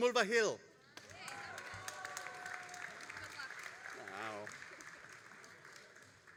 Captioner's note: all applauding and cheering